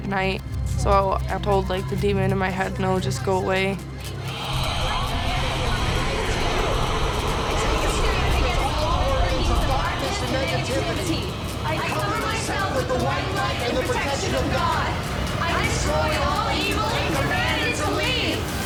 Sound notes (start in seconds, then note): 4.0 whispering